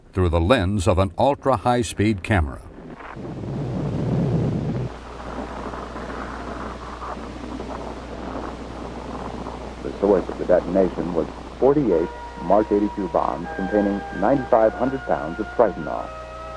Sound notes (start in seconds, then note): 3.1 explosion rumbling